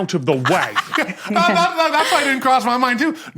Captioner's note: cackles